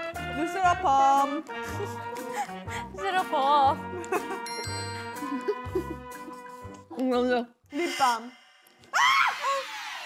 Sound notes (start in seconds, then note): 5.2 giggling like they weren't scared a minute ago